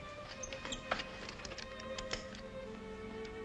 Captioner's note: handcuffs click; soft ominous music